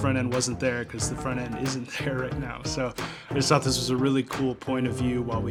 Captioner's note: laughs